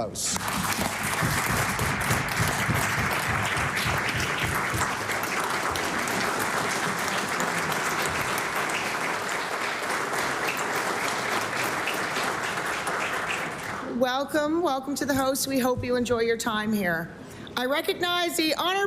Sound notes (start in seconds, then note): 5.3 applause